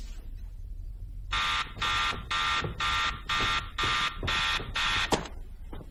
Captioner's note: timer buzzing